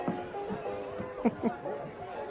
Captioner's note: laughs